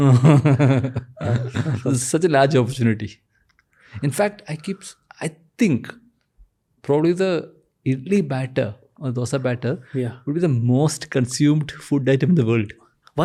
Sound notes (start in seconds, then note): 0.0 chuckles